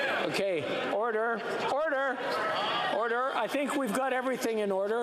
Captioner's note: yelling